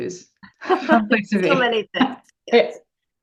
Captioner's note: laughs